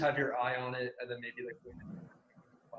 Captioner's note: murmurs